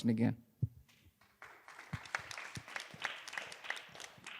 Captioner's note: applause